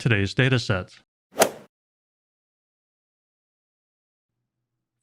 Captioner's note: golf swing sound effect